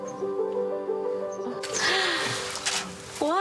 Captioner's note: gasps